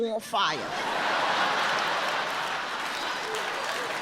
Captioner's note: audience laughs